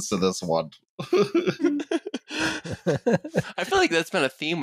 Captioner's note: laughter